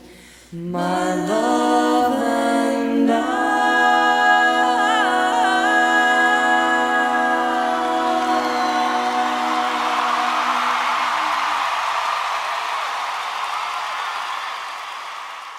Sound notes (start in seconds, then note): 9.1 audience applauding and cheering